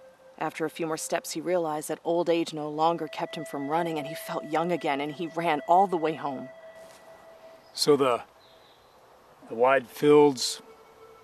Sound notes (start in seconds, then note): none